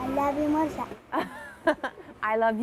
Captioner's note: laughter